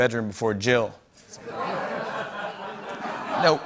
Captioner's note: laughter